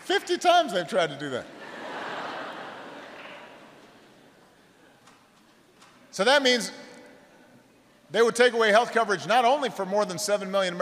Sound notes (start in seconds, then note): 3.7 laughter